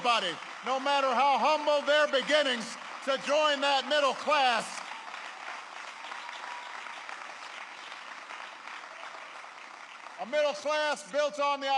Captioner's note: applause